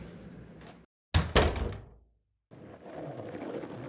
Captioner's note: door closes; skateboard rolling